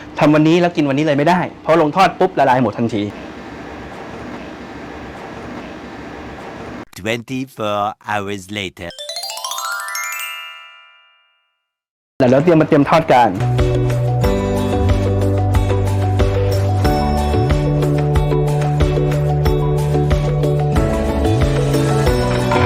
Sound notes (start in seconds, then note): 8.9 Magical sound effect